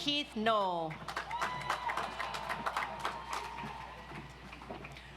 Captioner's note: audience applauds